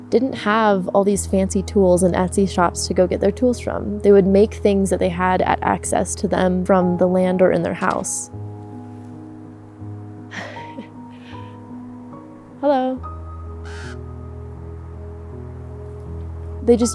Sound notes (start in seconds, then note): 10.3 softly laughs; 13.6 bird calls